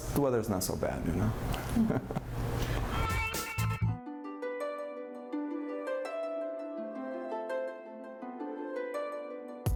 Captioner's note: chuckles